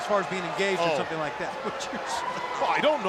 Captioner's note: Tony chuckling